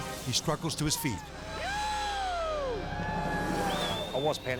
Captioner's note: friends cheering